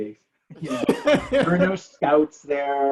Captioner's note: laughing